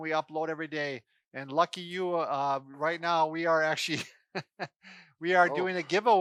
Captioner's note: laughs